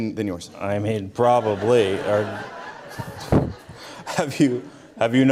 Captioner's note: audience Laughter